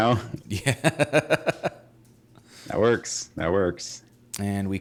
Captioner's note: laughing; lauging